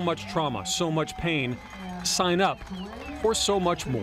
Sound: cheering and applause

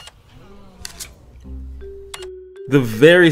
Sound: register beeping

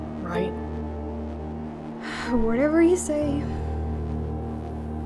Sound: sigh

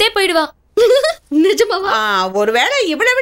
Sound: laughs

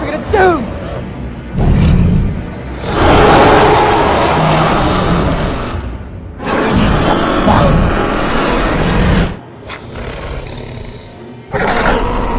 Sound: spinosaurus Growls

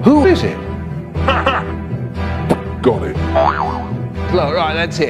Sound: boing

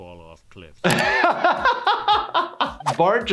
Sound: laughs

